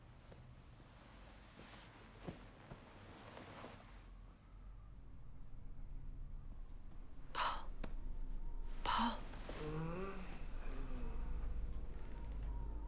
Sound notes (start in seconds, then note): 2.4 sheet rustling; 9.6 Paul moans; 11.2 hinges creaking